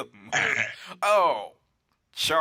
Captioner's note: sound of extremely loud belch